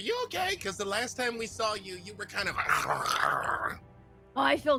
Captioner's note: growls